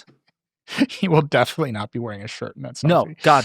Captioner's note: laughing